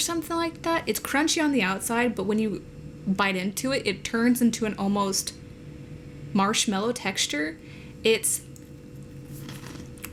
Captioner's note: crunch